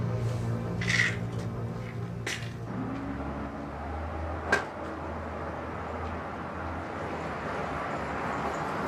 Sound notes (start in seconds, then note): 0.8 pills rattling; 3.4 traffic droning